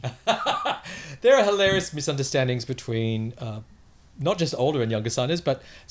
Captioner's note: laughs